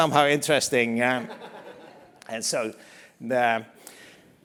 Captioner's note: laugh